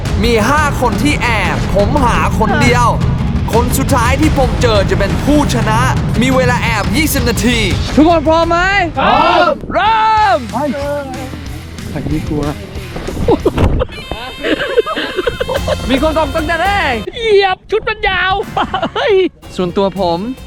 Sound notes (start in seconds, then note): 12.8 laughs; 18.4 chuckles